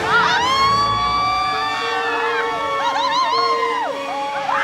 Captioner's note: family shrieks